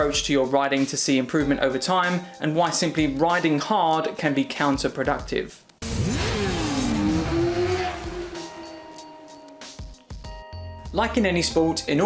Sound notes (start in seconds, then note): 5.8 bike engine roaring; 8.0 gentle upbeat music